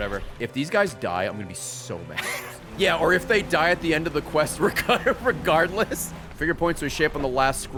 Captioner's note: laughs